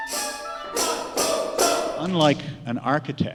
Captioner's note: rhythmic shouting